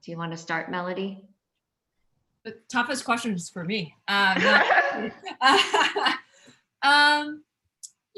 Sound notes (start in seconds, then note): 4.4 all laugh